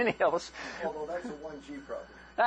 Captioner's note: laughter